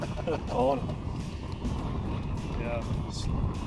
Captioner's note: laughing